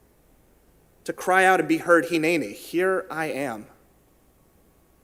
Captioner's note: in Hebrew